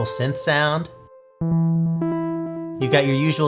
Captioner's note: pleasant beep boops